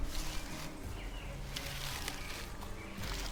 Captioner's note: bushes rustle; suspenseful music